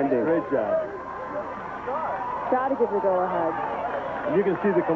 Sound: rain

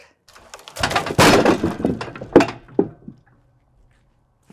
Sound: slab clatters

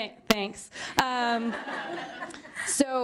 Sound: laughter

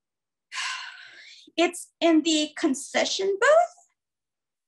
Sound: sighs

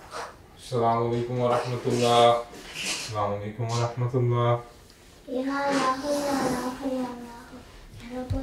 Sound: foreign language

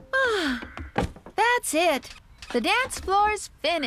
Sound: sighs

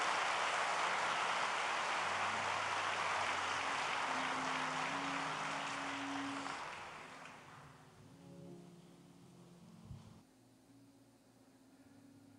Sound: applause

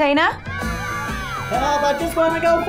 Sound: cheering

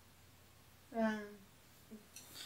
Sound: groans

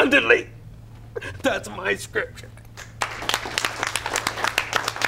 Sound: applause

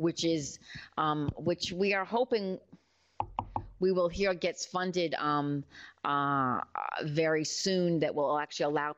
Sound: knocks on wood

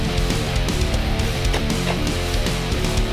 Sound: plastic snaps

